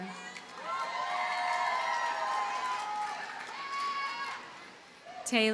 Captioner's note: audience cheers and applauds